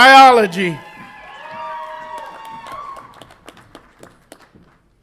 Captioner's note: audience applauds and cheers